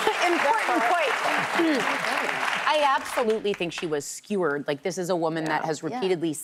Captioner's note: applause